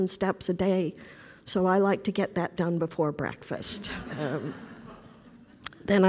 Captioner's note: laughter